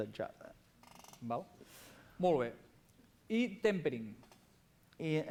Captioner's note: non-english speech